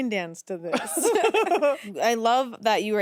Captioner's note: laughs